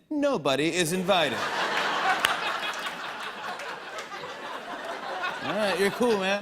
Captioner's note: laughter